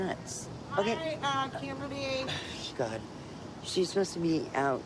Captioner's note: scoffs